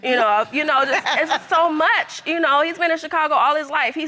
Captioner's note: laughs